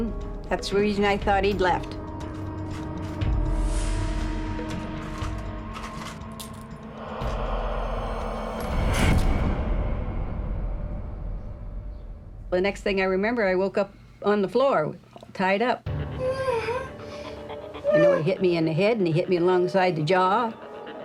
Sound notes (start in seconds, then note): 17.4 moaning